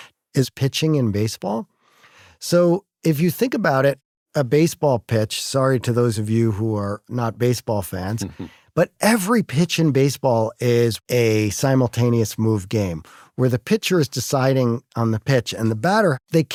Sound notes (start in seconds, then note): 8.2 cough